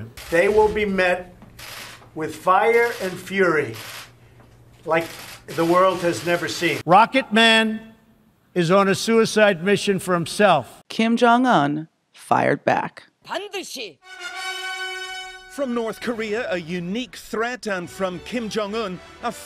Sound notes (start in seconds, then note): 13.1 speaking Korean; 14.0 suspenseful music